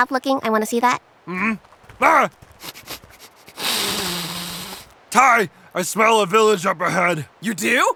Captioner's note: sniff sniff